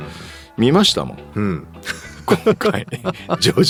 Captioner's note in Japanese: 笑い